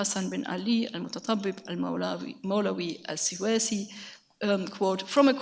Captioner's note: speaks in a foreign language